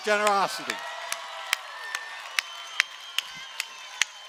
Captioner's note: cheering